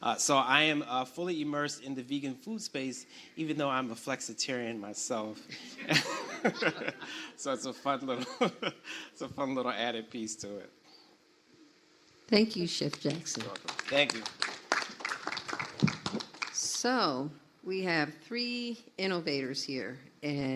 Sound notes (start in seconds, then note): 5.7 audience laughs; 5.7 laughs; 8.7 laughs; 14.7 audience applauds